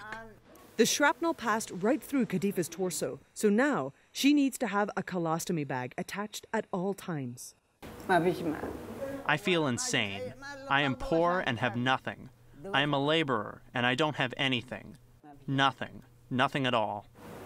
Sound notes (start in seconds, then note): 7.6 through translator